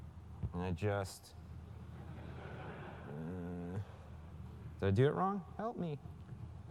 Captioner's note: laugh